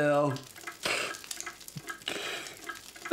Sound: sniffs

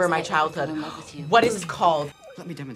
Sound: gasps

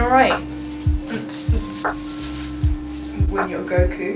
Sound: mimics dance music

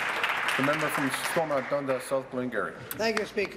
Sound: applause

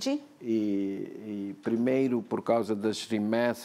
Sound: speaking portuguese

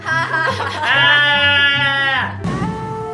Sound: weird animal noises

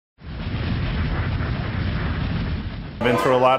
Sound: storm sounds

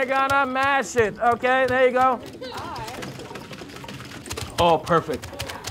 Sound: pounding fists

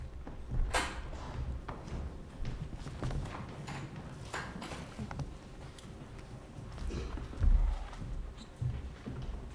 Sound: footsteps

